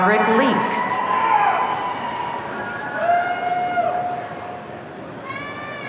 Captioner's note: audience cheering